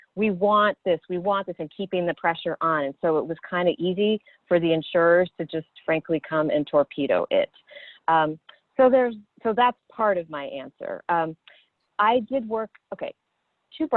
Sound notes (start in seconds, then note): none